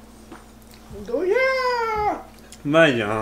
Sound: exclamation

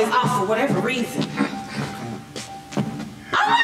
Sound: clearing throat

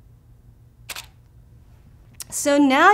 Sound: camera shutter clicks

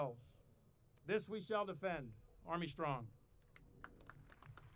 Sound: audience applauding

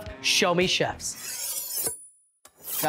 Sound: knives slicing

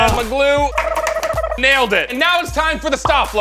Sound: silly whirring sound effect

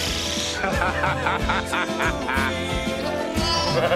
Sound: laughs; sentimental music

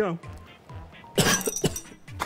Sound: cough noise

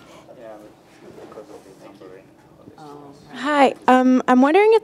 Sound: group chattering

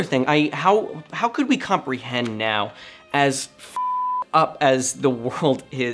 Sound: beep

